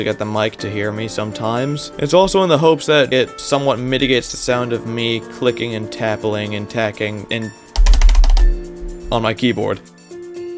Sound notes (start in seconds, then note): 7.7 furious typing